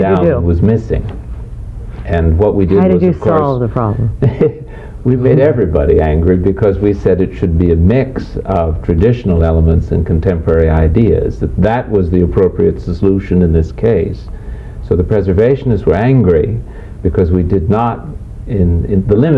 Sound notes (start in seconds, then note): 2.8 laughing